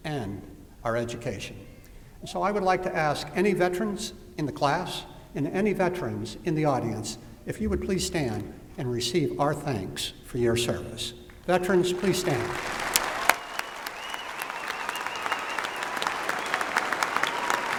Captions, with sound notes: and our education. So I would like to ask any veterans in the class, and any veterans in the audience, if you would please stand and receive our thanks for your service. Veterans, please stand. [APPLAUSE]